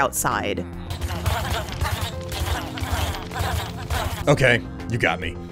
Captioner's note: pain noises